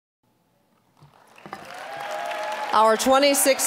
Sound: applause, cheering

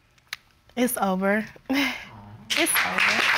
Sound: chuckles

